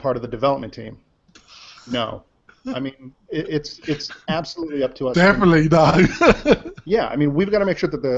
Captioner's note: laughs